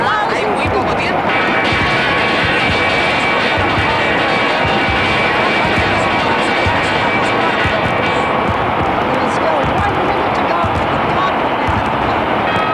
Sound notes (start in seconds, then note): 0.2 ringing of bells in Madrid, Spain